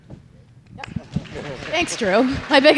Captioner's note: audience applauding